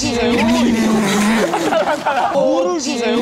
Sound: puhahaha

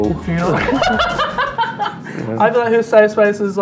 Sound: laughs

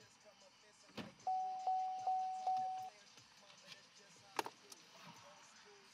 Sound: car door bell rings

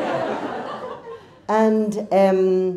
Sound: crowd laughs

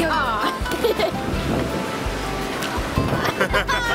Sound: laughing

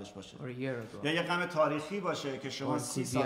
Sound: speaking in farsi

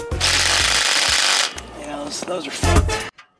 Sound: drill whirs

